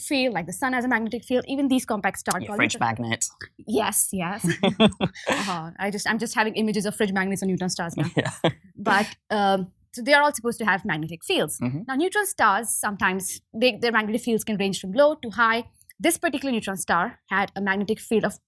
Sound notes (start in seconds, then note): 4.4 both laughing; 8.0 laughs